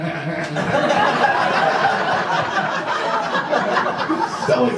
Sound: audience laughs

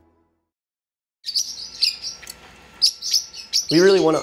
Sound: bird chirping

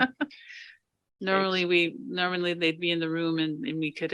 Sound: board members laughing

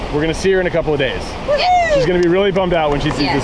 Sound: cheering

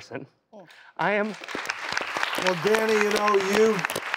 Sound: audience applauds

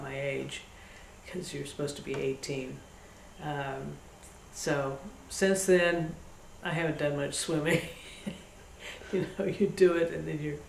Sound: laughs

